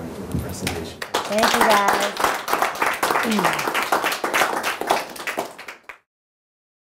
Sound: audience clapping

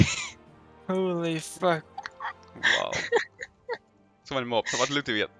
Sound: haha

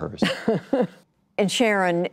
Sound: laughter

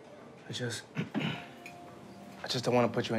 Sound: clears throat

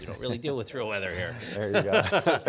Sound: laughing

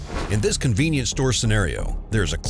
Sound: voiceover

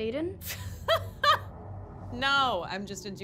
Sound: laughs

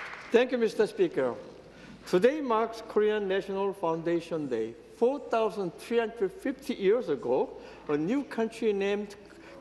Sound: applause

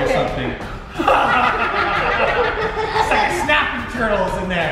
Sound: laughing

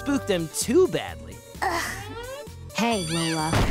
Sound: sighing

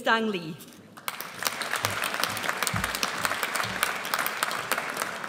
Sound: audience applauds

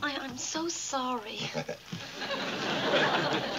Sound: chuckling

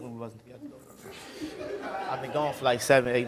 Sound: laughing

